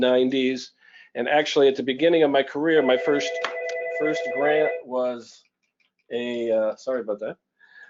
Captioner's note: phone ringing